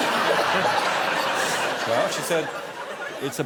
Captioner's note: laughter